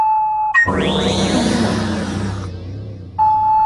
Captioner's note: alien voice